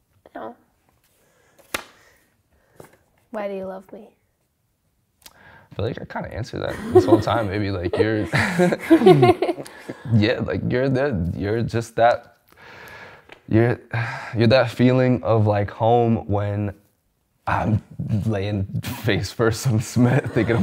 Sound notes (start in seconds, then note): 6.6 laughs